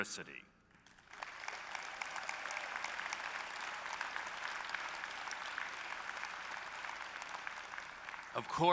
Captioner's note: applause